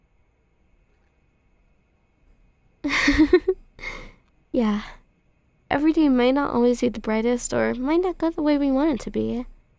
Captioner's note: soft giggle